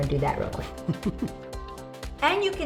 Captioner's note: laughs